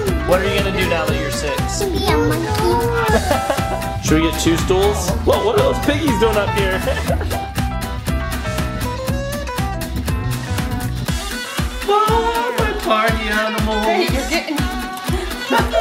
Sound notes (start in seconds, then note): 2.8 dad laughs; 6.4 dad laughs; 8.5 upbeat music; 15.2 dad laughs